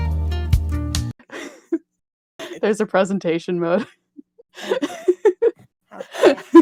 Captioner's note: laughing; laughs